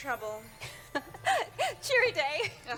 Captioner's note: laughter, off